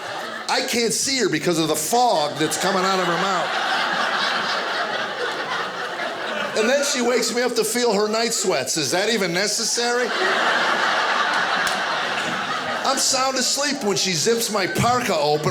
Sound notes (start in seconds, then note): 3.7 audience laughing; 10.1 audience laughing